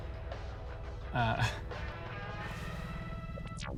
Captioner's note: chuckles